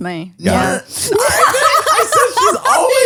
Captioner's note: all laughs